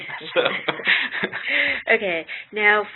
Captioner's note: laughter